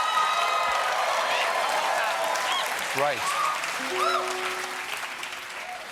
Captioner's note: cheers and applause